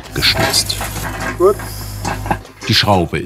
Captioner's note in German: Scheppern